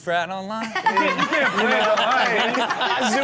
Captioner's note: all laughing